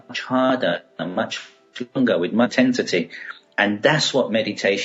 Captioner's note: audio cutting out